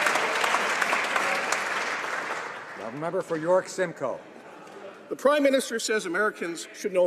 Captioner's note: some Applause